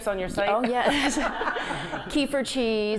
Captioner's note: laughing